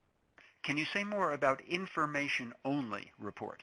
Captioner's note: voiceover